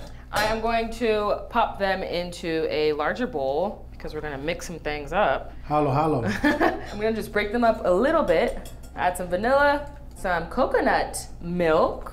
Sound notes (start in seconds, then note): 6.4 laughing